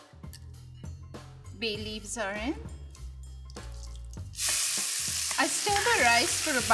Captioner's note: rice sizzling